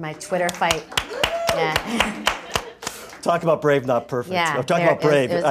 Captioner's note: applause